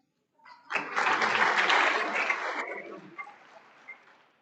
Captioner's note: audience applauds